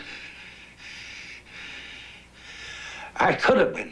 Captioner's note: panting